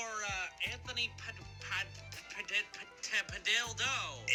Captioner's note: delivery man stammering